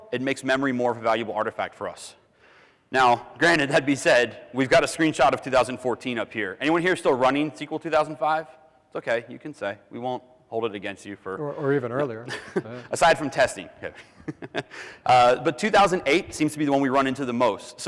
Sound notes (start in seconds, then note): 14.7 giggles